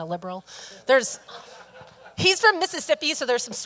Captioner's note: audience laughing